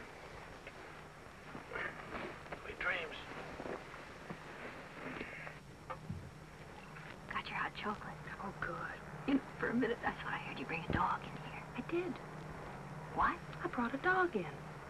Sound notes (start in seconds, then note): none